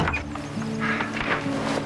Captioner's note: sighing